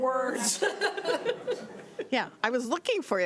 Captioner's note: laughing